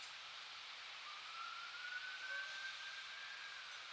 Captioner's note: distant siren